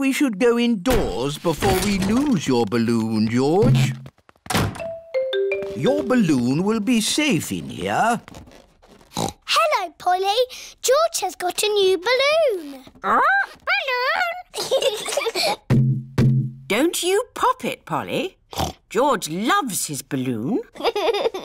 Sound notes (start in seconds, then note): 9.0 snorts; 14.4 both giggle; 18.5 snorts; 20.8 laughs